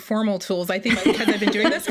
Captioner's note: both laugh